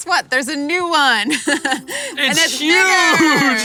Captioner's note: laughs